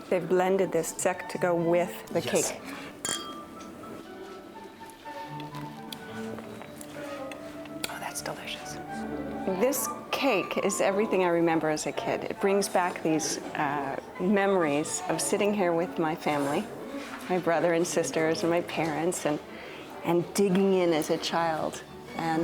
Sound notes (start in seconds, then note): 3.0 glasses clink